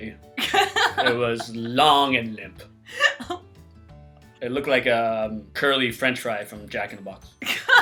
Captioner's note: laughs; chuckles